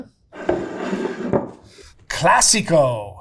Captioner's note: jar scraping